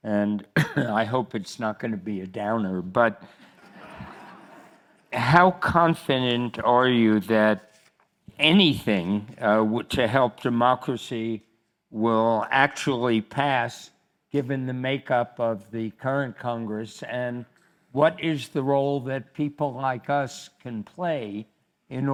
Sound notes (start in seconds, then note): 3.4 crowd laughs